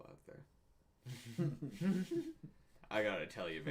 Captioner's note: laughs